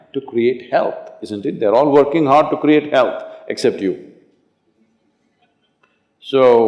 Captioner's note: few laugh